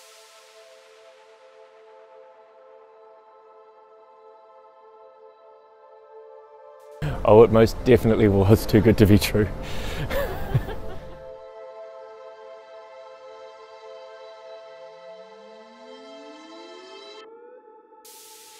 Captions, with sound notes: Oh, it most definitely was too good to be true. (laughs)